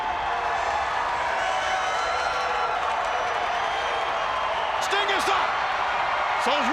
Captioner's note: crowd cheering